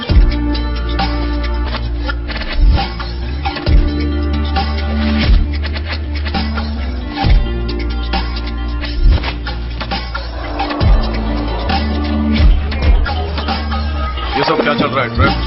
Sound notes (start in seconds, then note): 9.5 crowd gasping; 10.9 phone ringing